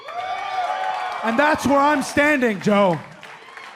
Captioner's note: cheers and applause